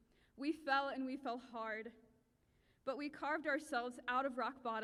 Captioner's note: none